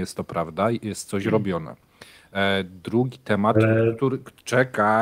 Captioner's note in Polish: dźwięk telefonu